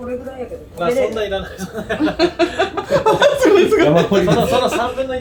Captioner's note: laughs